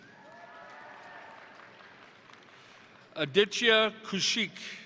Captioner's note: crowd cheering; crowd applauding